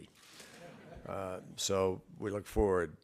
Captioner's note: laughter